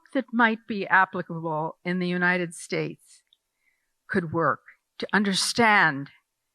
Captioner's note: none